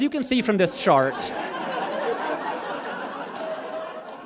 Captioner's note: audience laughs